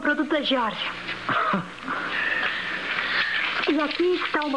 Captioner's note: chuckles